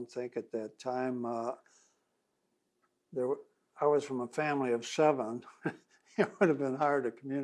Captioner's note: laughs